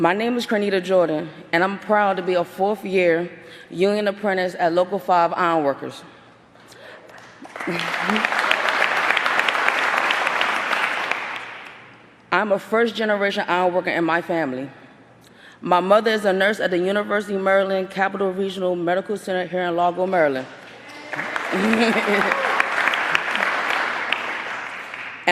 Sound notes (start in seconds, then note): 12.5 applause